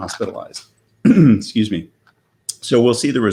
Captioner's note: clears throat